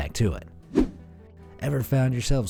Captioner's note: air whooshing